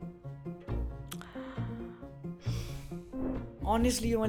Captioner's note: breaths Deeply